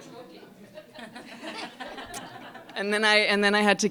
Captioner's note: laughter